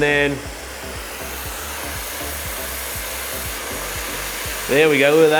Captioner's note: water steaming